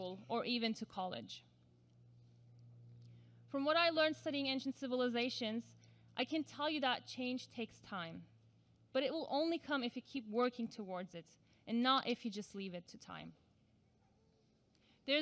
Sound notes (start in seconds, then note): none